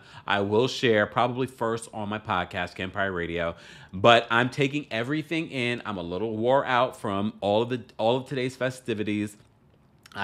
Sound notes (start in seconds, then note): none